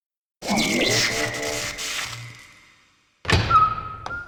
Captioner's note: electronic crackling; door opening, distorted guitar music fades in